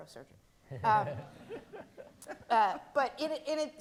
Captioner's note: audience laughing